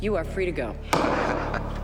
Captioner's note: gavel bangs